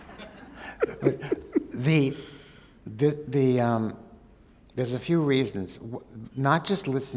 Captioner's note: laughter